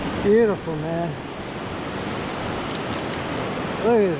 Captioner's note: ocean Roaring